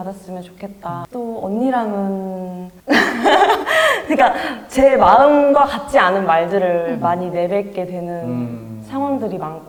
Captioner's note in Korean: 웃음